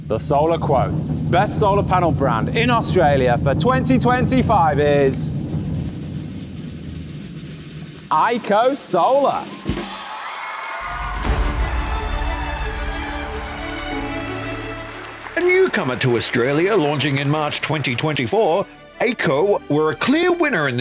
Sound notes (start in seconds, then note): 5.2 drums rolling; 9.6 audience cheering and applauding; 11.2 jubilant music